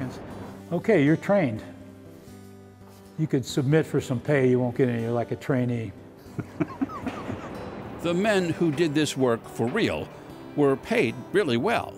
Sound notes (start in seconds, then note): 6.3 laughs